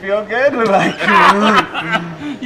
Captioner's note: laughter